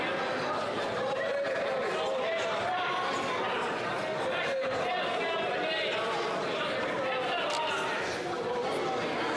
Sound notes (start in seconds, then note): 1.6 some Applause